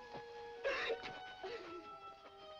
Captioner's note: sobbing